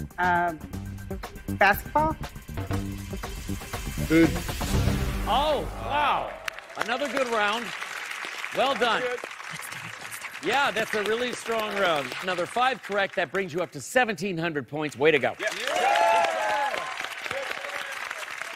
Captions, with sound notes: Um, basketball? - Food. [dramatic chord] - Oh, wow. Another good round. Well done. - That's good. - Let's do it. Let's do it. - Yeah, that's a really strong round. Another five correct. That brings you up to 1,700 points. Way to go. [cheers and applause]